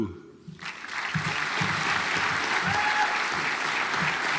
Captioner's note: audience applauds